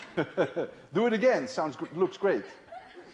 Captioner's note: laughter